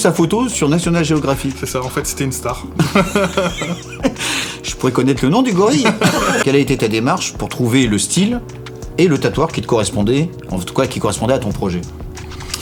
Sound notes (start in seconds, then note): 5.7 laughs